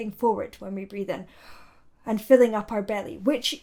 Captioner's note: inhales